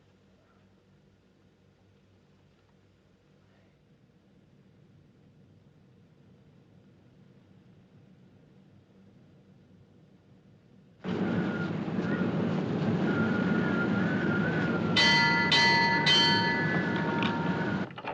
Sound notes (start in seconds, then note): 11.0 wind Whistling; 14.9 clanging